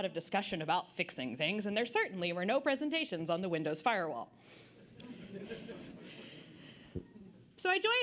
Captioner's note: audience Laughter